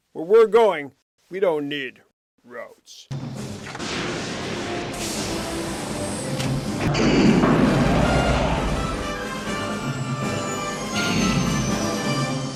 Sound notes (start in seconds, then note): 3.2 majestic music; 5.2 rockets roaring